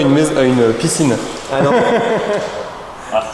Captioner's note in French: rires